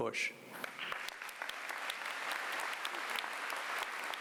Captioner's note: applause